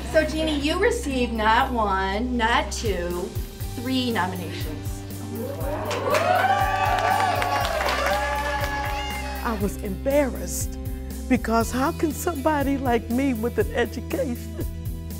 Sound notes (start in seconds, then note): 5.4 cheers